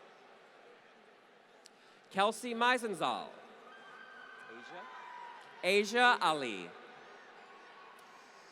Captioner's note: applause